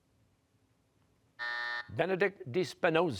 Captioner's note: buzzer